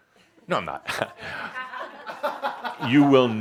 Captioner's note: more chuckles